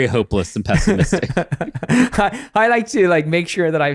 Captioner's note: both chuckle